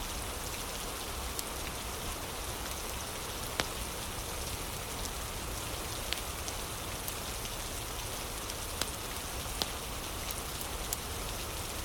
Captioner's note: fire crackling